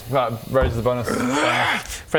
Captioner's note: hrrrgh